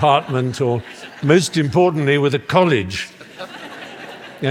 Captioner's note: laughter